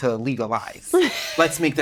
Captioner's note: chuckles